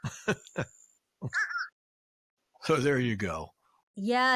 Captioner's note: fish crow chirping